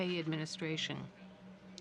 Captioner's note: speaking french